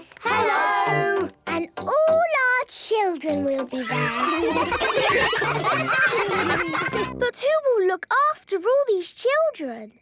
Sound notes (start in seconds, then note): 3.8 ruckus